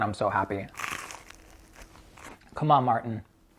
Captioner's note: bread crunching